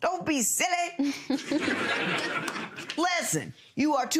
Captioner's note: audience laughs